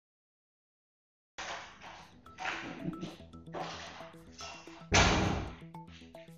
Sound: sounds of the door opening and closing

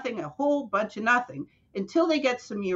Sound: none

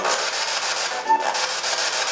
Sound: static

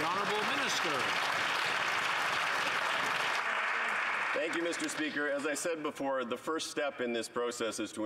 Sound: some Applause

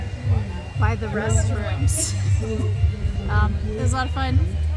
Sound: laughs

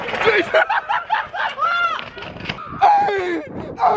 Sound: laughing loudly

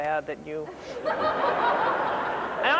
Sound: laughter

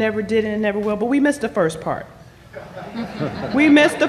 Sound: laughter

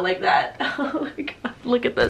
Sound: laughs

